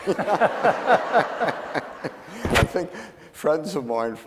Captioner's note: laughing